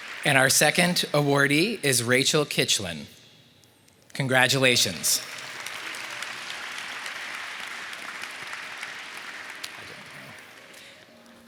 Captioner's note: applause